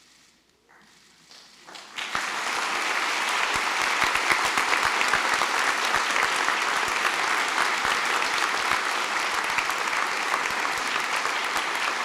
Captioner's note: applause